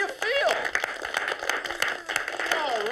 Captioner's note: applause